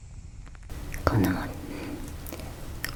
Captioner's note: stomach sounds